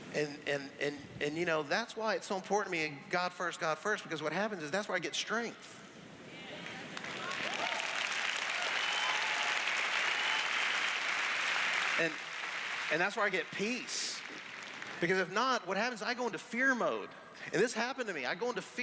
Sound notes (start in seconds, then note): 6.6 applause